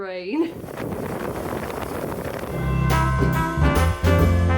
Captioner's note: wind and motorbike; cheery Christmas music